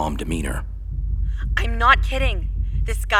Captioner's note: over the phone, frantic